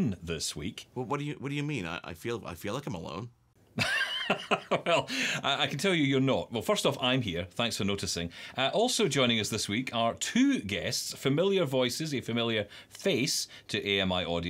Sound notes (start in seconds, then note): 3.7 chuckles